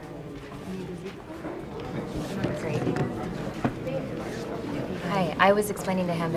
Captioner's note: background chatter